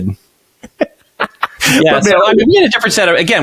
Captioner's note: laughs